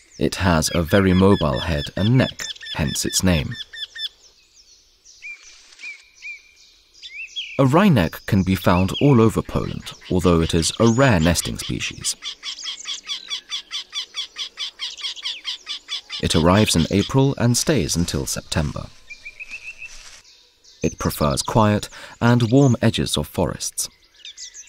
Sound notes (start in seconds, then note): 4.1 sounds of nature; 12.1 sounds of nature; 18.9 sounds of nature